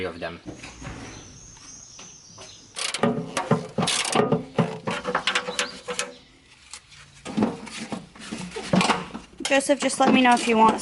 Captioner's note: construction sounds